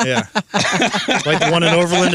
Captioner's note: laughing